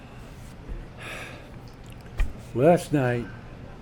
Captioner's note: sighs